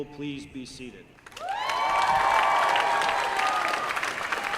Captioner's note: applause